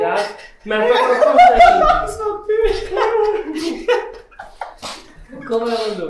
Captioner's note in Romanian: râsete, iar ce spune nu se înțelege